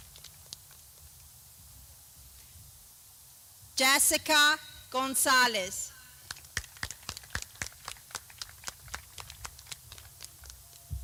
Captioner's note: clapping